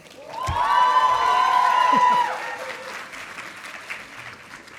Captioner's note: audience applauding